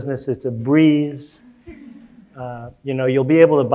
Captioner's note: audience chuckling